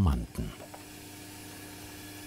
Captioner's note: low whirring sound